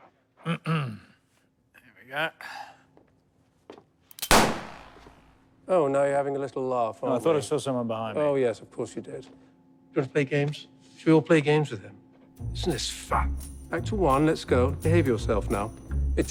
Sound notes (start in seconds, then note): 0.4 clearing throat; 4.2 gunshot